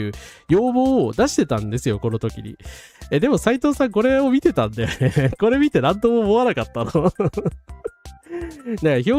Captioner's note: laughs